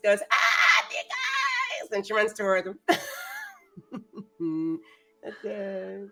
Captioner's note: chuckles